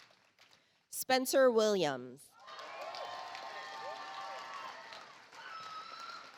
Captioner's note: audience applauds